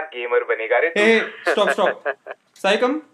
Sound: laughing

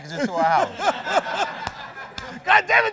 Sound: laughter

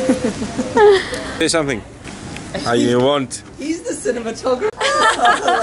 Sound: laughter

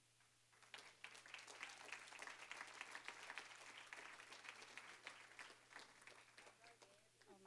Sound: applause

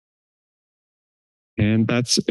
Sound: pause; pause

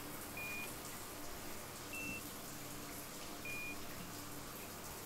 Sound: container beeps

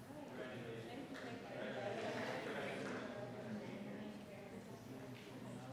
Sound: audience chattering indistinctly

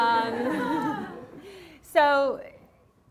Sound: class laughing

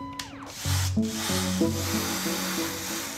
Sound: drill whirrs

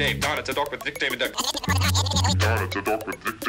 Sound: tape rewinding

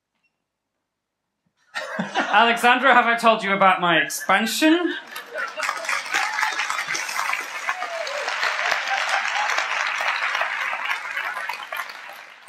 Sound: applause and laughter

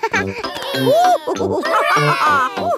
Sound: giggles; madam gazelle laughing; children straining

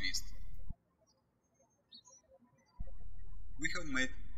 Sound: birds chirping

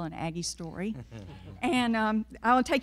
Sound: everyone laughing

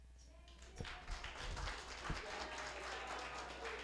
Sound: applause

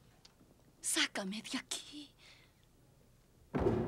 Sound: voice echoes

